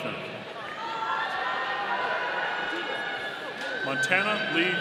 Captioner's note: audience cheering